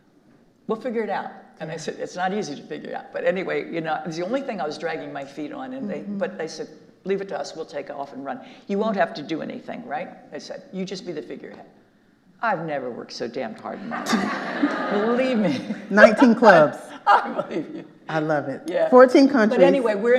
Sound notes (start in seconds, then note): 13.8 all laughing; 16.8 laughing